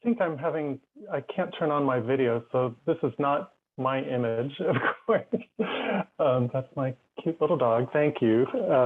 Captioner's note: laughs